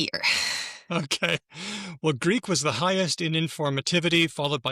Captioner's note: chuckles